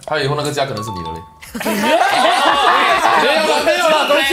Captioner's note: laughs